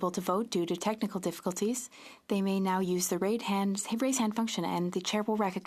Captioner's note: speaking French